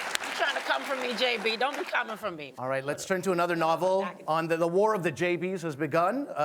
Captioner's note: applause